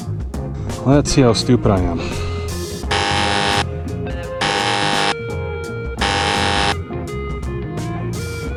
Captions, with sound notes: let's see how stupid I am *warning buzzer x3*